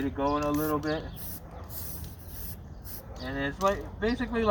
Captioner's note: spray whistling